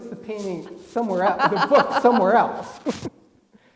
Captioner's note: laugh